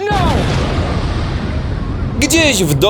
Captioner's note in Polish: boom!